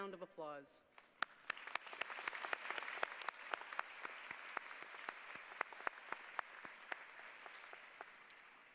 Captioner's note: applause